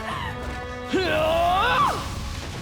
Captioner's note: grunting